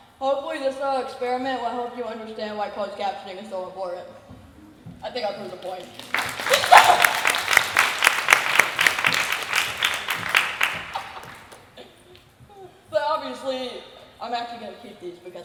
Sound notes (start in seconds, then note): 5.6 applause